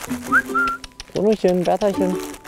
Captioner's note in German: Pfeifen, Lockrufe